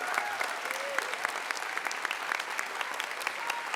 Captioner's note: applause